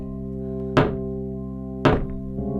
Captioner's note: knock; ominous organ music